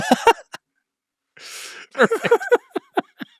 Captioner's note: laughs